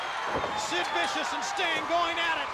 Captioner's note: crowd cheering